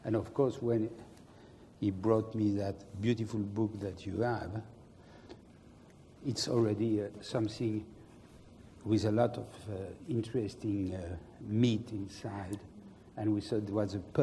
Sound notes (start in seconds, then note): none